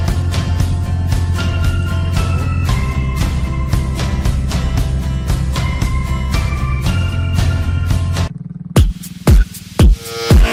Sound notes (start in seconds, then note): none